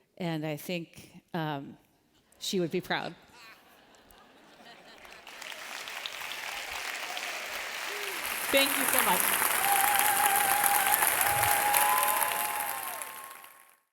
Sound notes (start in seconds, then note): 3.3 laughter; 3.4 applause; 9.5 applause